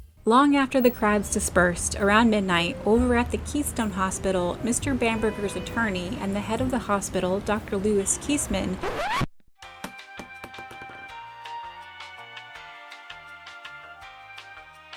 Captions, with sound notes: Long after the crowds dispersed, around midnight, over at the Keystone Hospital, Mr Bamberger's attorney and the head of the hospital, Dr Lewis Keastman-- [record scratch] [elevator music]